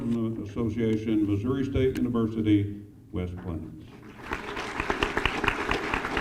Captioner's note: applause